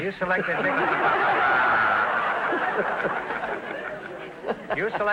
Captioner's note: audience laughter